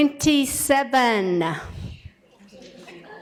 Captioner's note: laughter